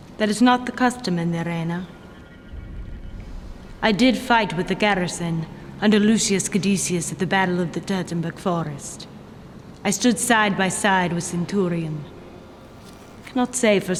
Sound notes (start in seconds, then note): none